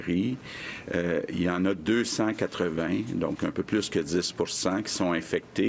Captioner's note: speaking French